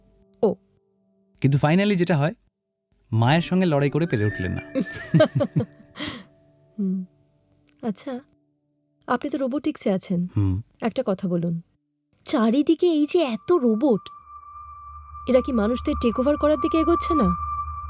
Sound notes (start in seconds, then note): 4.8 laughter